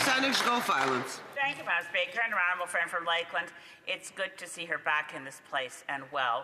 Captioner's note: speaking French